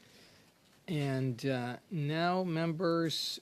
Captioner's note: speaking French